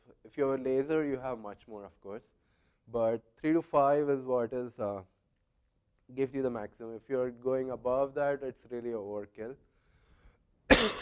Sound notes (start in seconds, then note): 10.6 cough